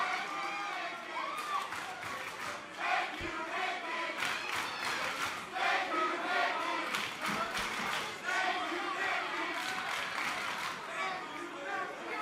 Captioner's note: crowd cheering